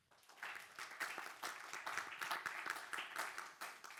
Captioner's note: audience applauding